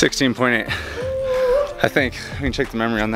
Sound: whooping

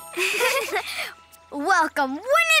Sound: both giggling

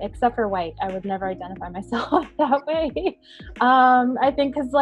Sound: chuckling

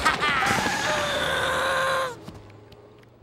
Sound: groaning

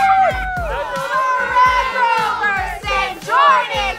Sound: team yelling in Unison

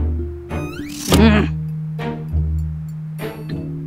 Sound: growls

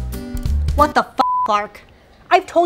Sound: beep

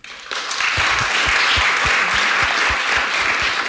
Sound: applause

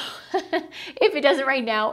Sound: laughs

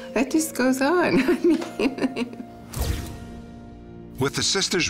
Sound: chuckles

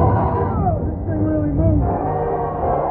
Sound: exclaims

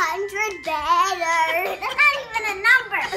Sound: laughing

